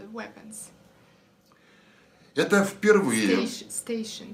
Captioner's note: foreign language